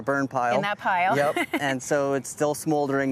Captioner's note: laughs